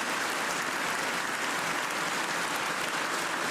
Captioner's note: cheers and applause